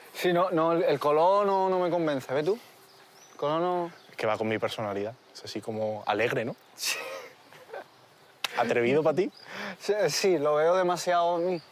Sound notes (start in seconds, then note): 6.8 laughs